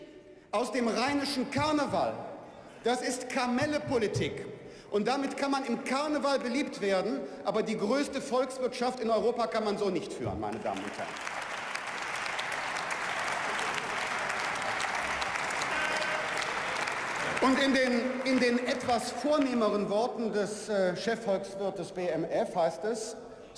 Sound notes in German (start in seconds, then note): 13.5 Beifall